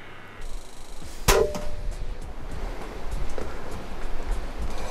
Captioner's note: bow popping